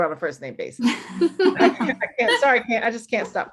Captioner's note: laughter